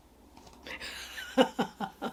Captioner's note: laughs